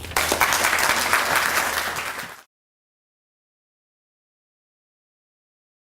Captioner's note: applause